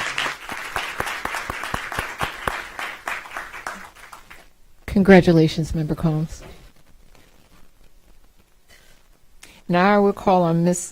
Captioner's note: applause